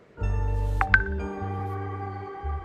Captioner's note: notification lol